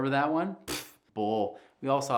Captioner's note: blows raspberry